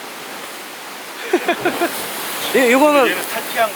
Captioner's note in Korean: 웃음